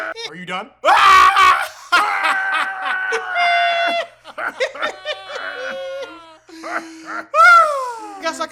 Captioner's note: advaned elite troll laughter